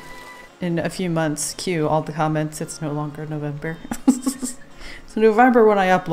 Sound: laughs

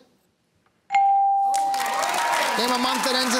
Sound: cheering and applause

